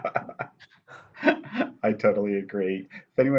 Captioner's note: laughter